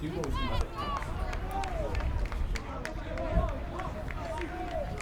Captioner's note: crowd cheers and claps